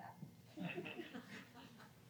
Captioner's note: laughter